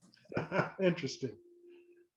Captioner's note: laughing